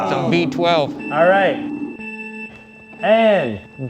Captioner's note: countdown beeping